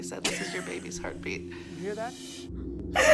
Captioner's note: laughs